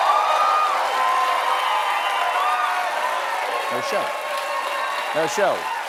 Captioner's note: cheers and applause